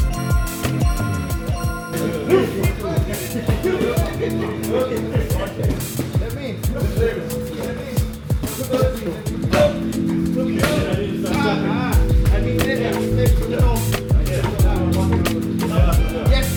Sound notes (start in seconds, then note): 4.0 laughter